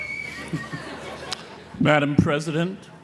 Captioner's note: graduate whistles; audience laughs